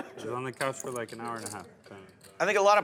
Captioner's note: voiceover